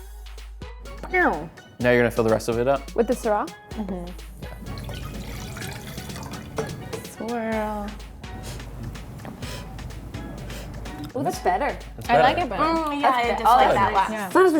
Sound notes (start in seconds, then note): 4.4 wine pouring; 8.2 sniffing